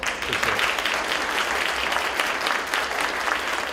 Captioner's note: applause